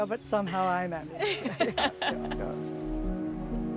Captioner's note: both laugh